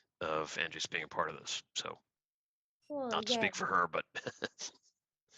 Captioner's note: laughter